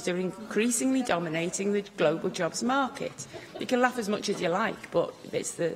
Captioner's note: laughter